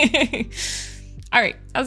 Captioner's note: laughs